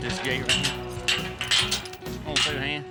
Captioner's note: gate clanking